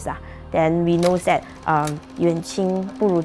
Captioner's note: in Mandarin